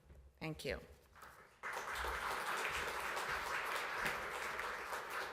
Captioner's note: applause